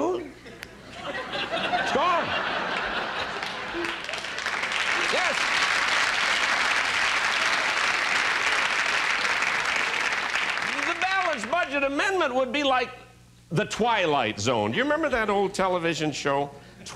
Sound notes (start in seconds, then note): 5.0 laughter and applause